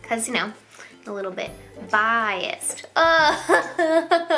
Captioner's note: laughs